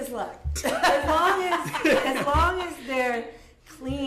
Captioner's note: laughter